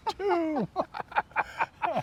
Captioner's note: laughter